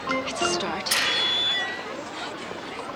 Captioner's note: gate opening